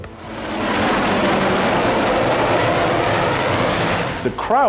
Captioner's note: helicopters roaring